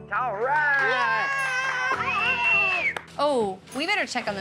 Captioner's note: everyone cheers, claps